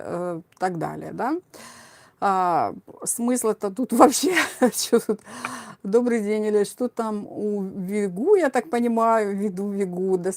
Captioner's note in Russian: смех